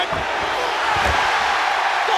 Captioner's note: crowd cheering